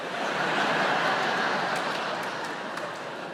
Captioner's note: audience laughs